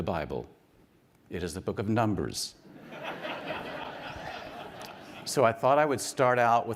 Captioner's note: audience laughing